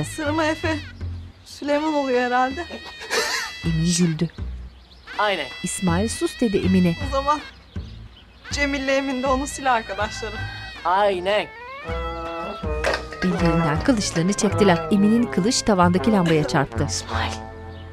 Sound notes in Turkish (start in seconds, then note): 2.9 Gülme sesi; 5.6 Müzik - Zeybek Havası; 11.8 Müzik - Klarnet